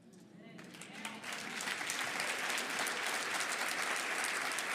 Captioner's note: audience applauding